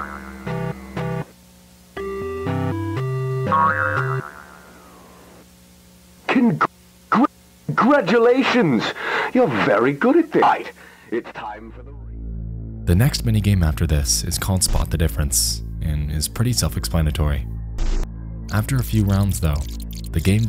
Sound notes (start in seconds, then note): 3.7 spring twangs